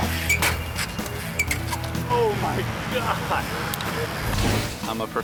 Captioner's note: bike thuds; bike creaks; mid-tempo music continues; laughs